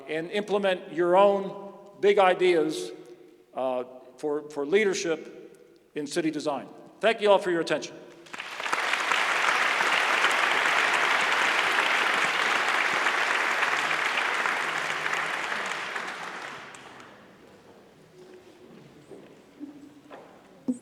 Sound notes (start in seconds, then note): 8.1 applause